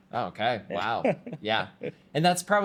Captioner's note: laughs